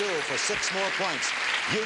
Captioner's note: audience clapping